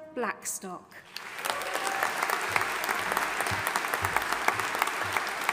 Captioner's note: audience applauding